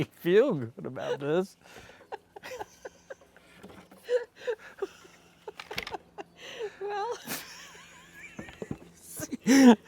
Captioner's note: laughter